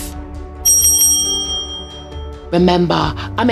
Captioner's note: bell rings